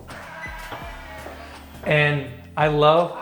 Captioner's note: toilet seat whirring